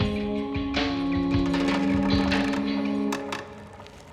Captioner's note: wood creaking